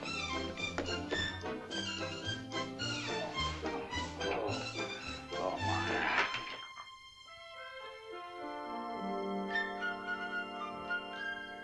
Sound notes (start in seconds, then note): 0.1 whimsical country tune; 5.4 groans; 7.5 whimsical music